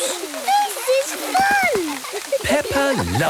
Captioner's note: laughter